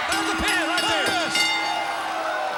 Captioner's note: bell ringing